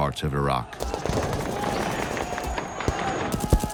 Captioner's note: gunshots